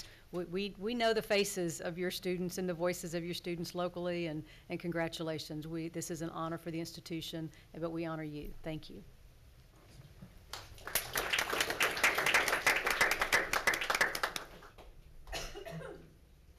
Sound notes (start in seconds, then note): 10.5 congregation applauds